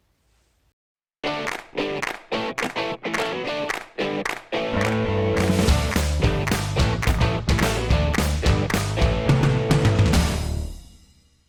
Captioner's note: claps